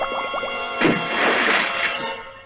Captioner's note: splash!